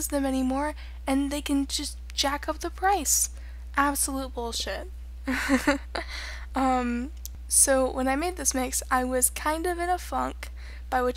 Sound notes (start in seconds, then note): 5.3 laughing